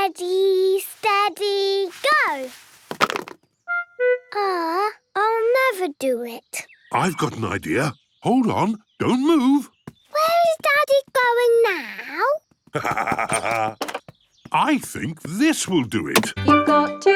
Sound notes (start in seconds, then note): 12.7 laughs